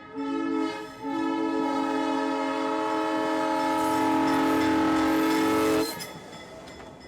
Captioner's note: train horn